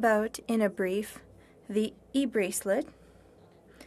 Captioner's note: speaking French